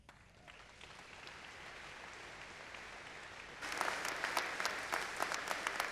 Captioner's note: audience applauding